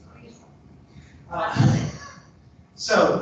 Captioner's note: laughs